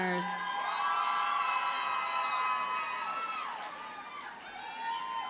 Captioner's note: audience cheers and applauds